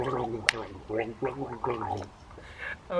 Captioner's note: gurgle